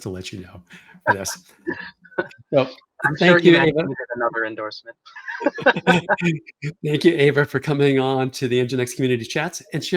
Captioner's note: both laugh